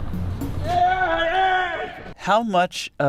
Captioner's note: shouts